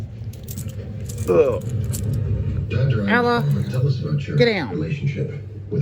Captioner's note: Ella groans as she approaches Ava